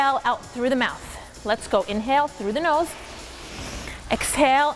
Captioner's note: nasal inhaling